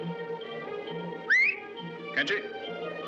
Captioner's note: sharp Whistle